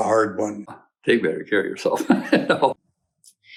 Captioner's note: laughs